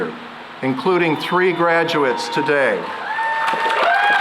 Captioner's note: cheering and applause